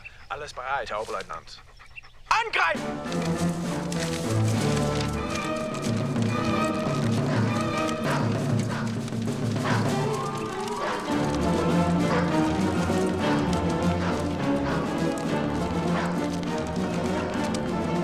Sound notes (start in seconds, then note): 0.1 speaking german; 8.1 dog barking